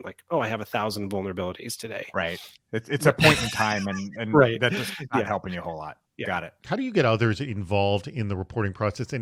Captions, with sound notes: Like, "Oh, I have 1,000 vulnerabilities today." - Right. It's a point in time- - (laughs) Right. Yeah. - And that just not helping you a whole lot. Got it. - How do you get others involved in the reporting process